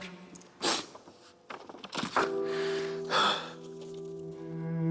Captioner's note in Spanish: Sollozos